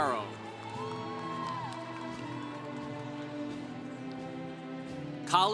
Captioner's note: congregation cheering